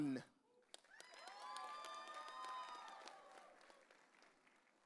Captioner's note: audience cheering